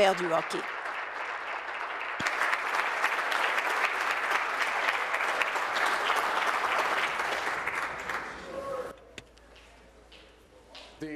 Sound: applause

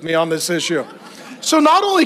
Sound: congregation laughs

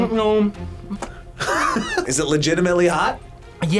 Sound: laughs

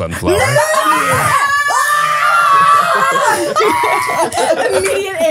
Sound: screaming

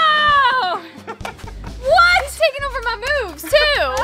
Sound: dad laughing

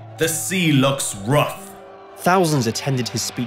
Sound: applause

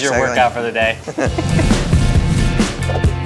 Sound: laughter; upbeat music

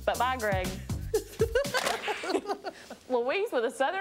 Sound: laughing

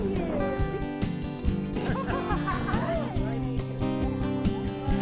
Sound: ladies laughing; delicate guitar music

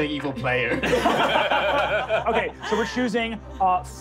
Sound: laughing

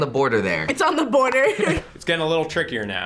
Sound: laughs

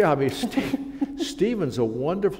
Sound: chuckle

